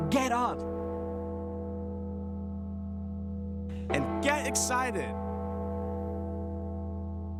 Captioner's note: bell tolling